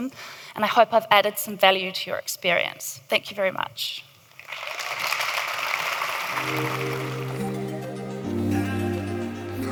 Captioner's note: audience applauds